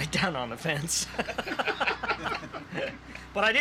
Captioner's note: laughter